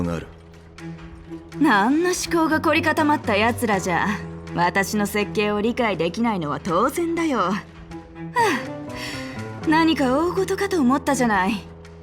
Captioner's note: sigh